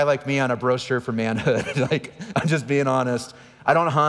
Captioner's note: laughing